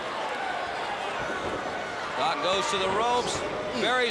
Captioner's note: crowd chatter